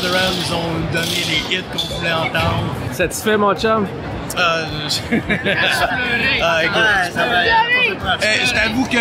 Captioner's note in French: rires